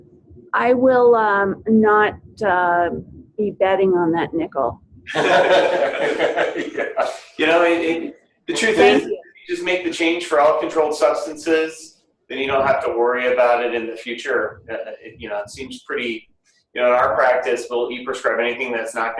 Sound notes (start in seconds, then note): 5.0 laughing